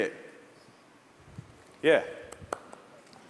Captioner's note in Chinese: 掌聲